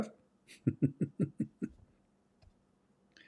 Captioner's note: Ketawa